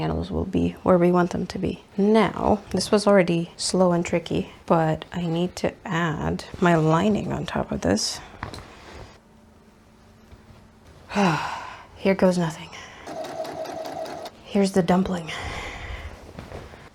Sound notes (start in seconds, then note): 11.1 deep sigh; 13.0 sewing machine noises